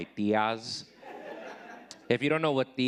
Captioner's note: audience laughing